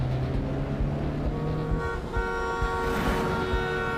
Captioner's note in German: langes hupen